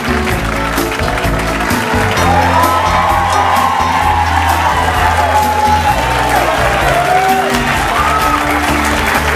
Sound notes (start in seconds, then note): 1.6 audience cheers